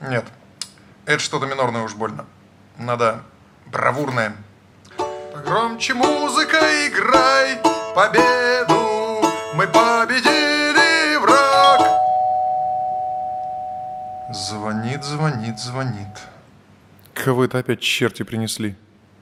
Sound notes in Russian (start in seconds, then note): 11.3 звонок в дверь